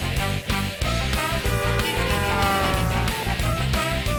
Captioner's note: honking